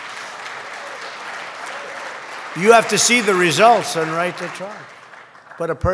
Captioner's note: applause